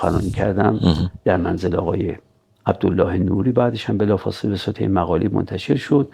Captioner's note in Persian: گلویش را صاف می‌کند